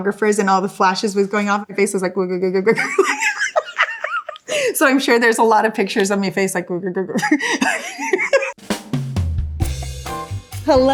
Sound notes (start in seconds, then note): 2.7 laughs; 7.2 laughing; 8.6 relaxed jazz music